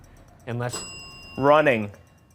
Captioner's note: bell dinging